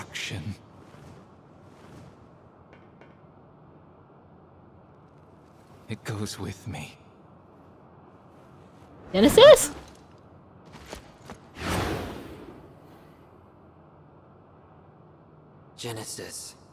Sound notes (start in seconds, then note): none